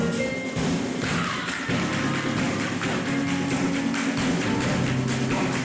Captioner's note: performers clapping